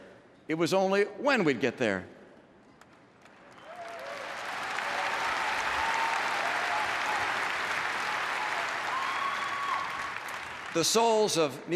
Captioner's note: applause